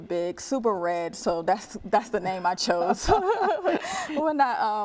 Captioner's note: laughing